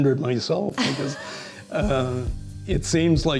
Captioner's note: laughs